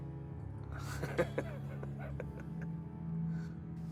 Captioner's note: laughs